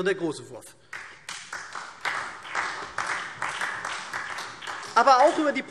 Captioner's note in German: Beifall SPD